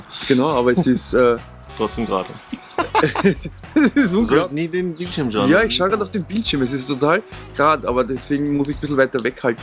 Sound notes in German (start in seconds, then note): 2.3 lacht